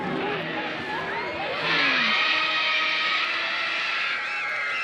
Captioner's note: kids screaming